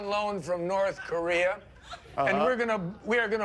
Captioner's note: laughter